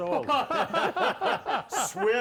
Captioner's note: all laugh